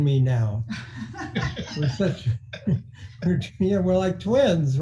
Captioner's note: laughing